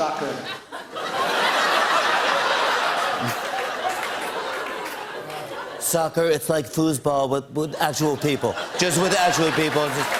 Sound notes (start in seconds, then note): 0.0 laughter; 5.6 As Trump; 10.0 laughter and applause